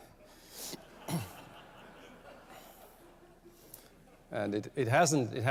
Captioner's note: laughter